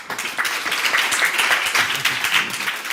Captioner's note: applause